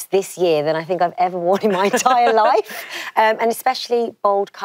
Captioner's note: laughs